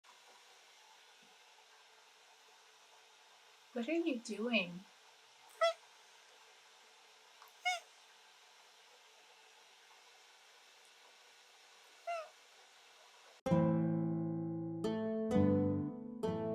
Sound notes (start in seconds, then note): 12.0 meow